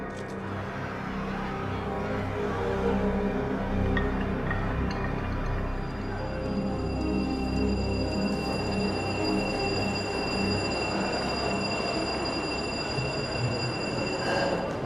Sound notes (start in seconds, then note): 4.7 sirens; 7.1 bell ringing